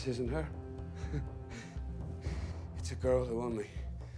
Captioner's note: chuckles